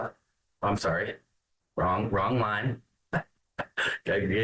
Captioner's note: laughs